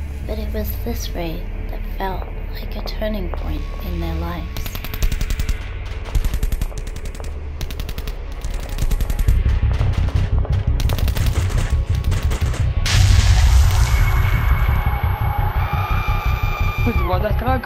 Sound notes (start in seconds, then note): 6.1 barrage of gunshots; 11.5 gunshots continue; 15.3 A scream